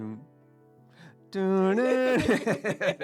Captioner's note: humming